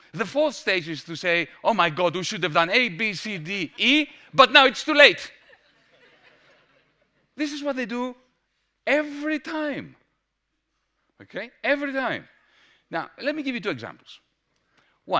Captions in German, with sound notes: Die vierte Stufe ist, zu sagen: "Oh mein Gott! Wir hätten A, B, C, D, E machen sollen, aber jetzt ist es zu spät!" [Gelächter] Das ist es, was sie tun, jedes Mal. Okay? Jedes Mal. Nun, lasst mich euch zwei Beispiele geben.